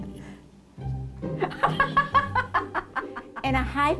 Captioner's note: laughing